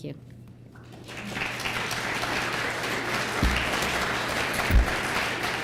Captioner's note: applause